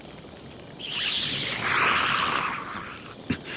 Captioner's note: hissing